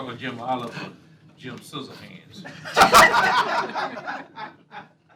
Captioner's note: laughter